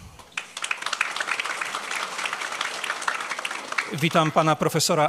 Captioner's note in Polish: oklaski